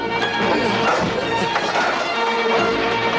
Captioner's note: clanging